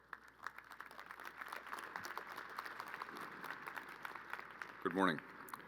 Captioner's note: crowd applauding